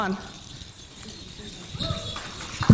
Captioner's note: beads clinking; audience clapping